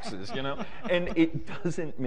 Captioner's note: laughter